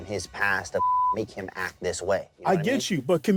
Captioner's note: beep